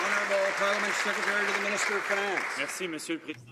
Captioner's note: some Applause